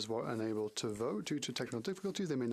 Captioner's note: speaking French